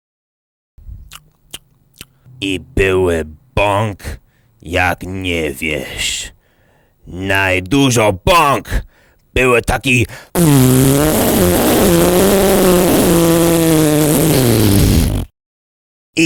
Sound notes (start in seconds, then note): 0.7 smack, smack smack